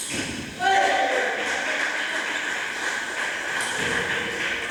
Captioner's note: applause